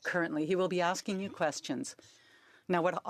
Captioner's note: speaking French